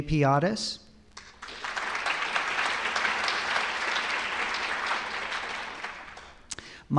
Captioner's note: applause